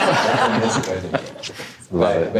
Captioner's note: audience laughing